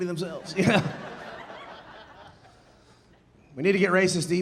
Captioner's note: audience laughing